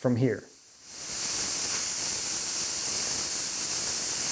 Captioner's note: sparks hissing